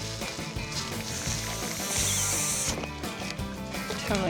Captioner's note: blowing